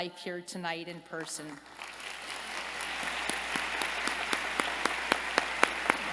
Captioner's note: applause